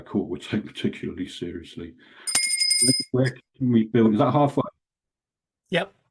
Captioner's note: bell rings